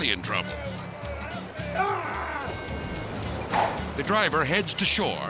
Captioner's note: dramatic music; driver shouting